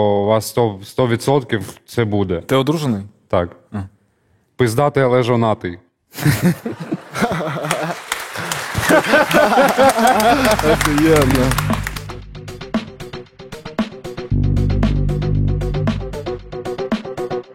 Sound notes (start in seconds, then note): 6.2 laughing